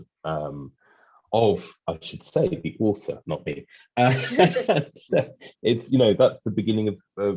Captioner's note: laughs